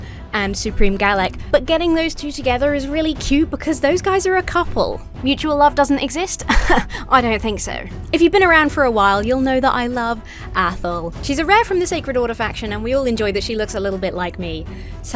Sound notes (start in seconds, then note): 6.4 laughs haughtily